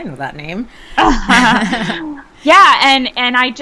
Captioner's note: people laughing